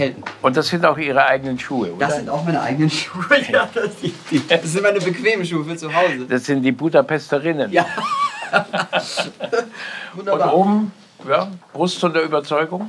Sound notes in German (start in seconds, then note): 3.0 lachend; 7.8 Beide lachen